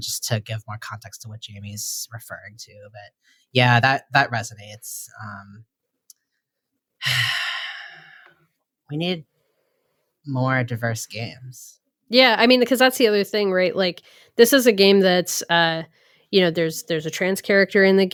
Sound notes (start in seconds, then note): 7.0 sighs